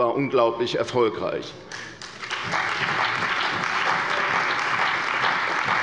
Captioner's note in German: Beifall bei der CDU und dem BÜNDNIS 90/DIE GRÜNEN